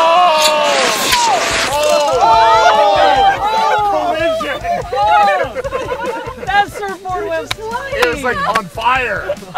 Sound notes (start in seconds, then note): 0.0 loud cheering; 2.0 cars crashing